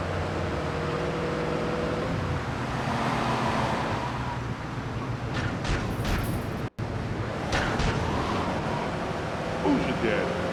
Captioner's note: engine roaring